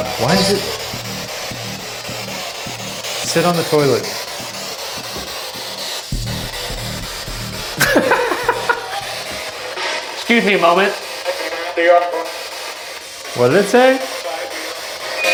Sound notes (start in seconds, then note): 2.1 spirit Box buzzing; 7.5 laughs